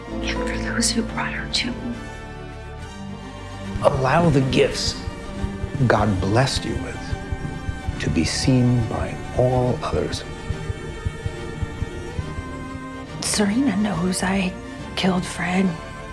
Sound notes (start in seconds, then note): 4.1 voiceover